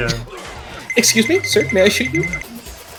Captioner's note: cartoon Tip Toe SFX